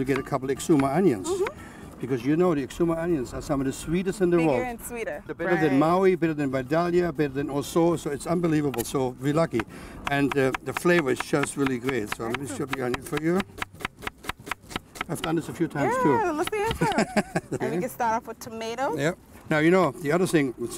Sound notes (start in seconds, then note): 13.4 chopping